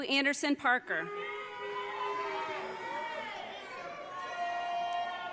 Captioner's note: audience cheering